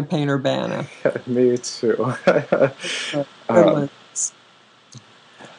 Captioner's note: laughter